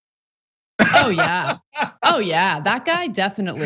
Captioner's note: laugh